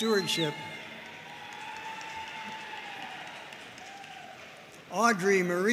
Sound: audience cheering and applauding

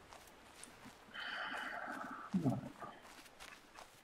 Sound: sighing

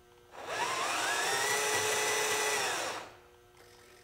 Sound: RC truck whirring

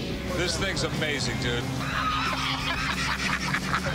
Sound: laughter

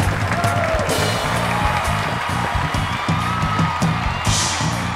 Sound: audience cheering; jazzy upbeat music

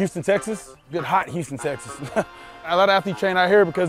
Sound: laughs

